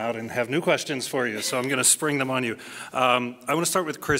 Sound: laughs

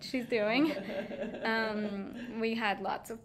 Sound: laughing

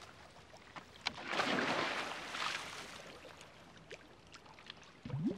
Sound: water splashing

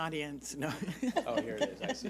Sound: laughs

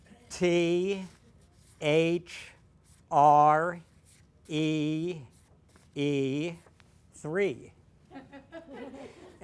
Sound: laughter

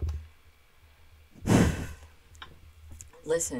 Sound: sigh

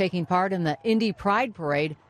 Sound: cheering

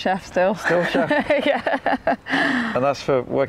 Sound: laughs

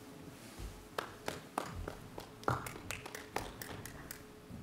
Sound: audience clapping

